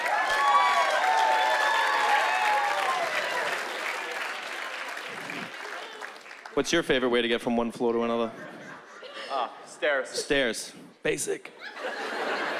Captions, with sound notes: (cheering) What's your favorite way to get from one floor to another? Uh, stairs. Stairs, basic.